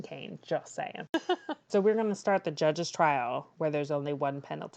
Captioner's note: laughs